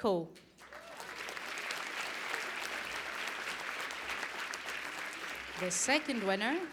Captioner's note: applause